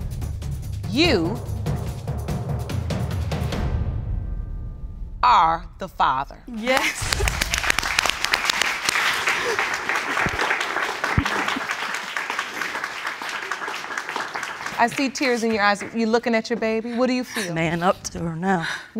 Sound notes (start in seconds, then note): 6.7 laughs; 7.6 audience applauding